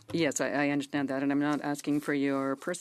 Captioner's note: speaking in French